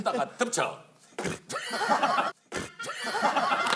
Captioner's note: spit